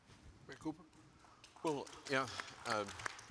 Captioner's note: audience claps